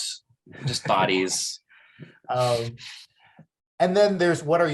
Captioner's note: chuckles